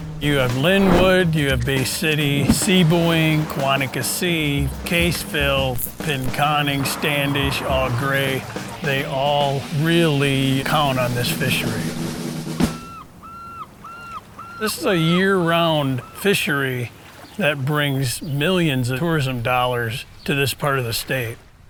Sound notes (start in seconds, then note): 12.3 seagull calling